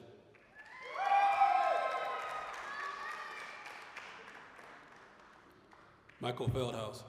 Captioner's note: applause, cheering